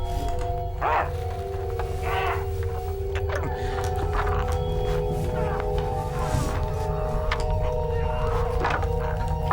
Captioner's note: Ronny gurgling